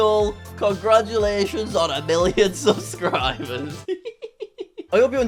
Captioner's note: chuckles